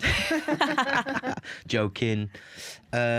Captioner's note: laughter